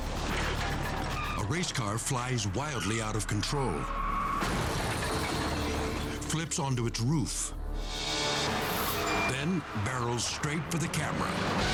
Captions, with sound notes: A race car flies wildly out of control, (metal crashing) flips onto its roof, then barrels straight for the camera.